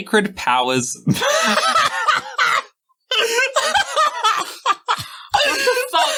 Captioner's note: laughter